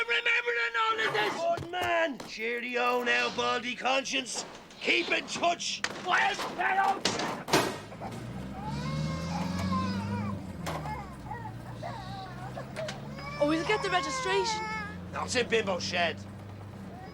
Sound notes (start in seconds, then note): 5.2 Gritos; 8.5 Bebé chillando